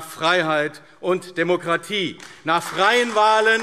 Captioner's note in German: Beifall AfD